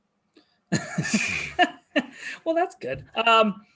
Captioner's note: laughing together